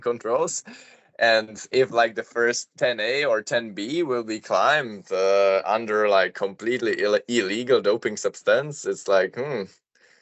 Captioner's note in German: fremdsprache 00:11:09